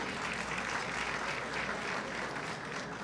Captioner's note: applause